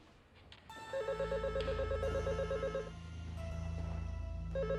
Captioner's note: ring